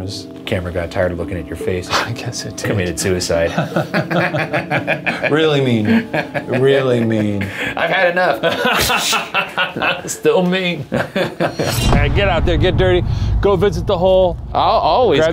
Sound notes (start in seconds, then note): 3.4 both laugh; 8.3 laughs